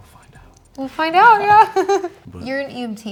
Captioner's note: laughing